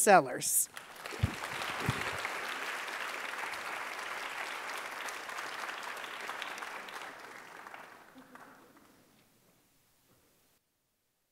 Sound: applause

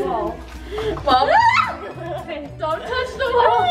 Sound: screams

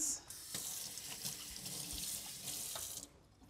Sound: water rushing

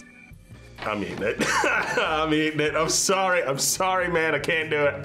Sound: laughs

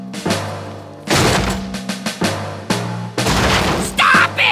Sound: crashing

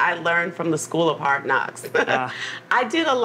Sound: laughs

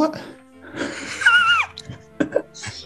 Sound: sniggering

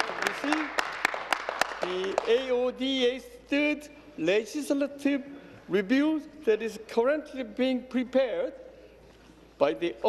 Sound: applause

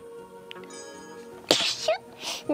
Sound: sneeze

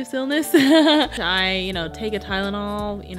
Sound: chuckles

